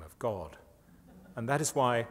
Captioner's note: laughter